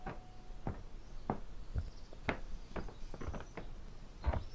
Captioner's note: footsteps approaching